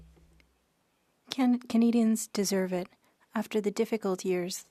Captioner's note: speaking French